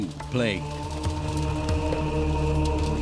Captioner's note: beating hail; men chanting